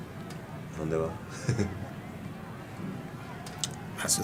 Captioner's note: laugh